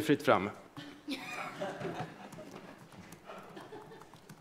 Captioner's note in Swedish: Skratt